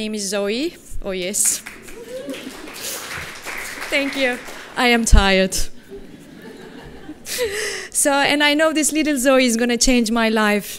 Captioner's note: applause